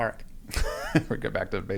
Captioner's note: laughs